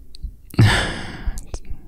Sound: sighs

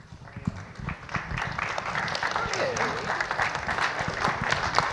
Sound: audience applauds

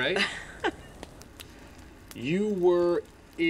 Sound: woman laughs

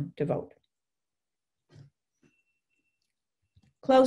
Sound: silence

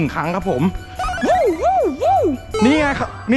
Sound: yelling

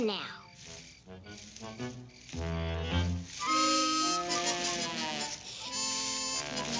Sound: footsteps rustling; quirky music

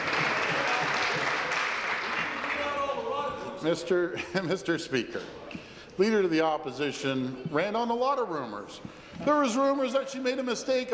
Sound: applause

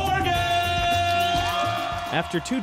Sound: cheering and applause

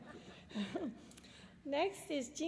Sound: laughter

